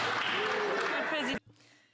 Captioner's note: some Applause